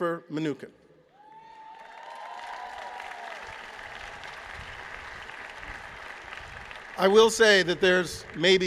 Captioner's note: applause